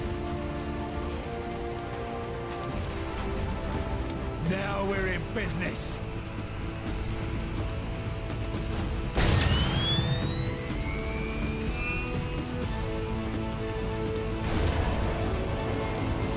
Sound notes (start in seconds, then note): 1.6 dramatic music; 9.1 exploding